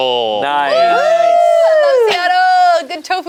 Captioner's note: group cheers